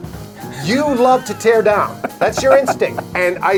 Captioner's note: laughs